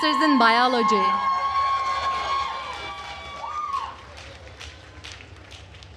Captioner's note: attendees cheering and applauding